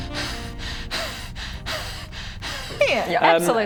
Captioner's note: breathing heavily